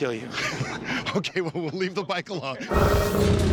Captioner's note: laughs